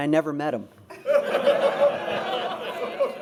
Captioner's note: laughter